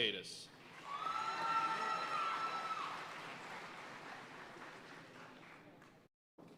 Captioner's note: audience cheering and applauding